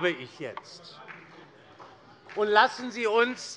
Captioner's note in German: Beifall